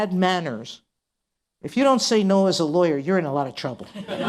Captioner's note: laughter